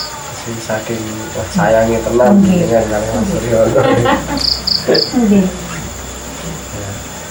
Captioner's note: laughing